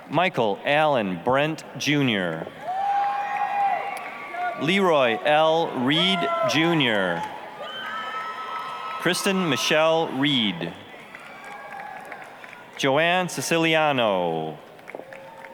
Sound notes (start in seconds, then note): 2.8 applause, cheering; 7.3 applause, cheering; 11.1 applause, cheering; 14.2 applause